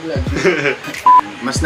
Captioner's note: laughs